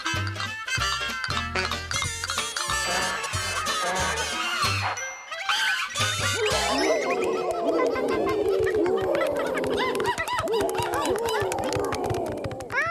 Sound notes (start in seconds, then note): 6.5 growling; 6.6 roaring; 10.7 hooting